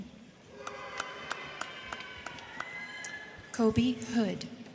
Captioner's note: crowd cheering; crowd clapping